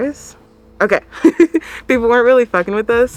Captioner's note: laughs